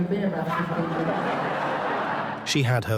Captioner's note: audience laughs